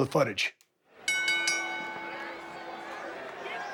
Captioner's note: bell rings